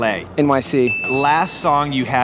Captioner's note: bell dings